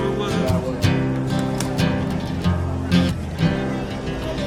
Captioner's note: crowd chattering